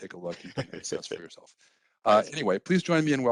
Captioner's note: laughter drowns out speech